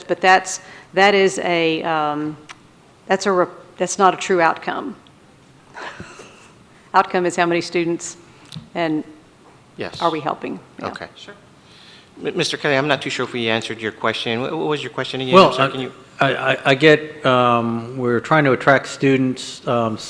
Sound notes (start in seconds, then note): 5.7 laughs